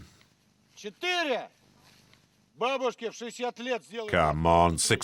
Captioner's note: Russian spoken audio